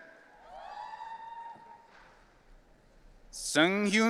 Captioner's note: audience cheering